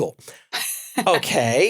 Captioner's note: laugh